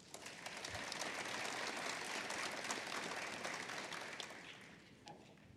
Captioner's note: applause